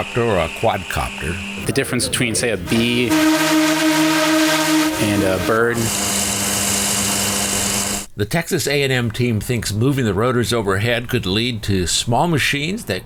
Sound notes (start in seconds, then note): 2.6 loud buzzing; 5.8 rotor thrums